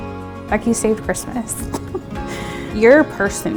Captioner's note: chuckles